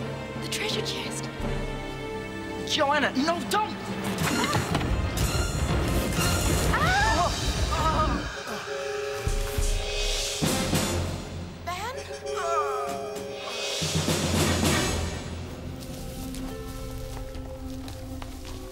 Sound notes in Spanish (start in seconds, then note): 7.0 gritando